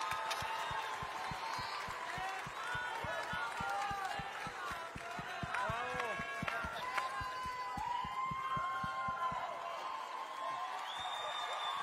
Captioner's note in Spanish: aplausos